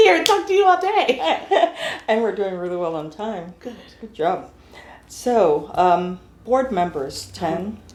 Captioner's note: laughter